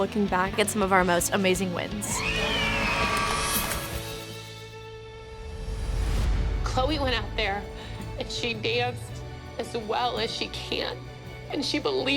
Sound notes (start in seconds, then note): 2.2 cheering; 5.4 tearfully